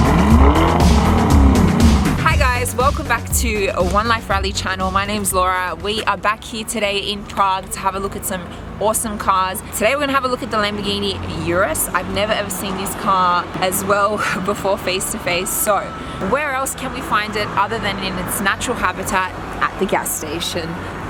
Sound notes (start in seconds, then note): 1.8 rrrrrraaawwwrrrr